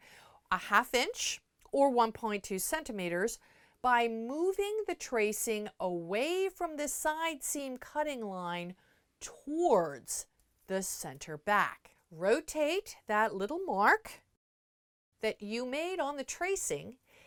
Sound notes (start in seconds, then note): 14.3 no Sound Present